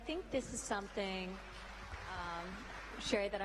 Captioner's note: applause